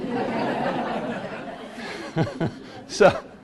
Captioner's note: class laughs